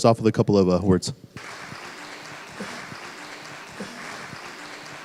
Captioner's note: applause